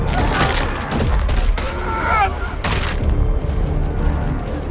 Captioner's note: bodies thud and splatter; bones cracking; bodies thud and splatter; tense music